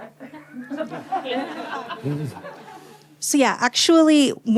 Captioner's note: laughter